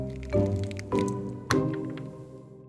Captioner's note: snapping sounds